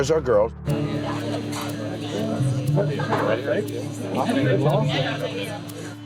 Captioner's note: indistinct crowd chatter